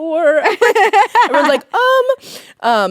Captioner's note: both laughing